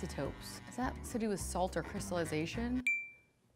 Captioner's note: ping